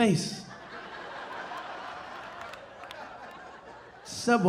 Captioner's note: audience laughing